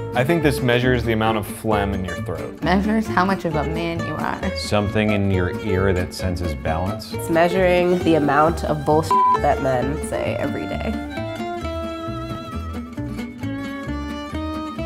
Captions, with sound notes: - I think this measures the amount of phlegm in your throat. - Measures how much of a man you are. - Something in your ear that senses balance. - It's measuring the amount of bull (beep) that men say every day.